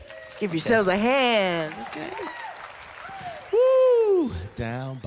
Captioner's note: crowd cheering